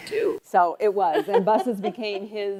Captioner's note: laughing